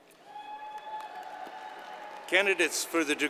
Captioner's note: audience cheers and applauds